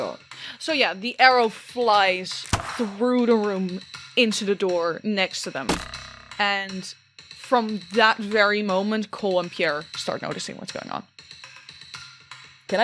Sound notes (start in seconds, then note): 5.6 twang of the arrow hitting the door; 5.7 sharp thunk of an arrow